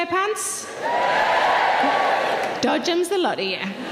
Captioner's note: audience members cheering